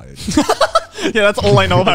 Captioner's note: laughs